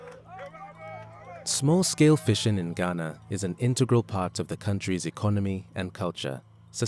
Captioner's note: voiceover